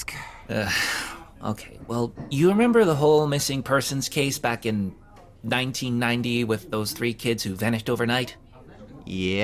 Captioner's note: sigh